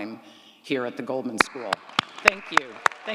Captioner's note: applauds